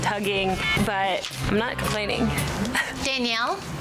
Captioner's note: laughs